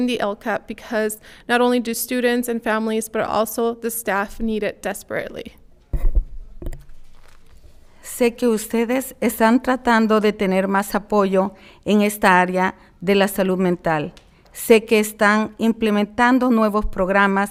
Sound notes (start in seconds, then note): 8.4 speaking in foreign language